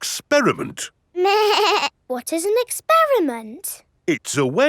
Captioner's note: snorts; bleating